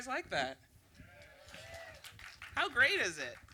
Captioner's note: audience applause and cudos